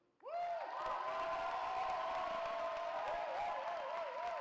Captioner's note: cheering